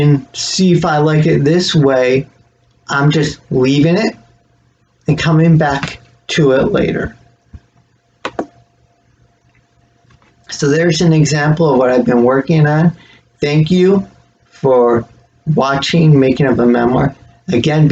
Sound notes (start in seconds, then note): 7.9 click